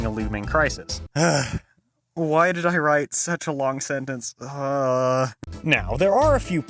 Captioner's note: sigh